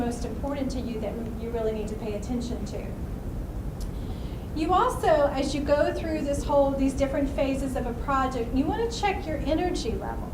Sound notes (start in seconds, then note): none